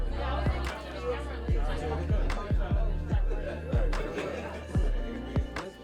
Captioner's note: easygoing music; students murmuring